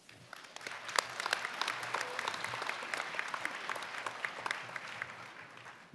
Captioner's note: applause